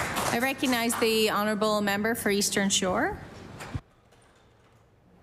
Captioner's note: applause